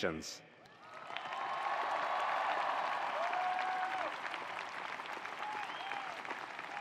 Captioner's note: attendees applauding; attendees cheering